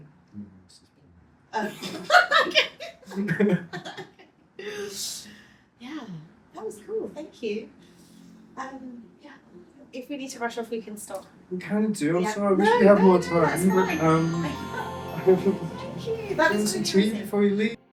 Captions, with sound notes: (laughing) Yeah, that was cool. Thank you. If we need to rush off, we can stop. We can do also. We should have more time. (laughing) Thank you. That's interesting.